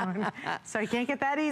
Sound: laughter

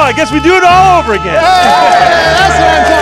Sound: crowd cheers

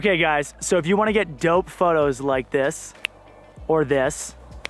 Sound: snaps

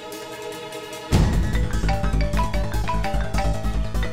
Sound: phone ringing

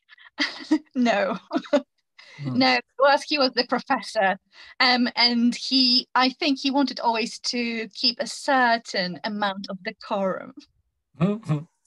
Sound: laughing

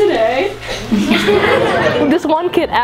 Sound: laughs

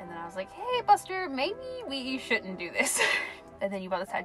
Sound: laughs

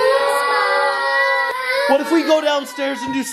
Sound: children crying

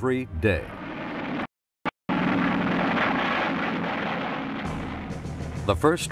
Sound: airplane engines roaring

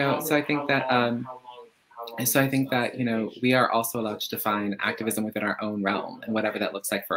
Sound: laughs

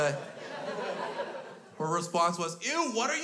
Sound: crowd laughs

